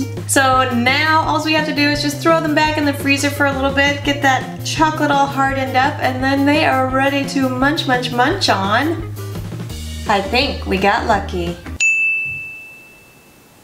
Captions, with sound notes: So now all we have to do is throw them back in the freezer for about a little bit get that chocolate all hardened up and then they are ready to munch munch munch on! I think we got Lucky! (Ding)